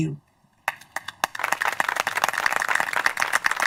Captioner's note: applause